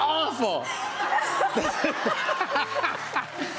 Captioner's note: laughter